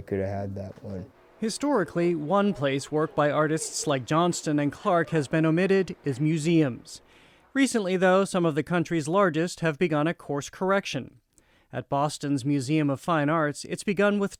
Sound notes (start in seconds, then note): 1.9 voice-over